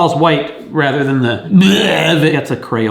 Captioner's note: imitating vomiting